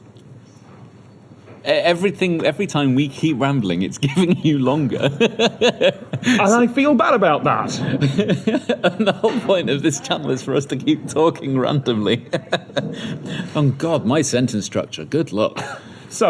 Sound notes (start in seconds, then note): 7.7 laughs